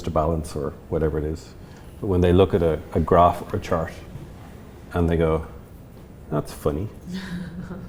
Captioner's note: laughs